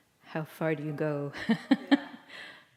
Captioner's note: laughter